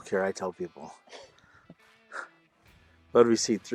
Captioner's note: laughter